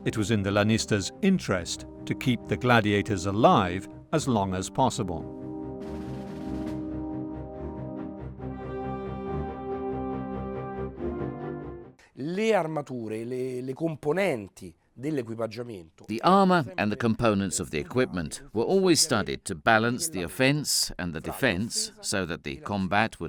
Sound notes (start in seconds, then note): 6.1 dramatic music; 12.3 speaking in foreign language